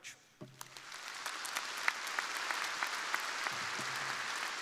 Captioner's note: crowd applauding